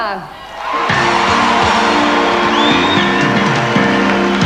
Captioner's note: audience applauding